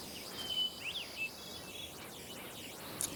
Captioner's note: birds chirping